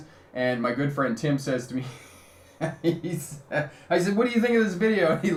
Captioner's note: chuckles